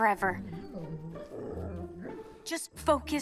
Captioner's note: Mischa whines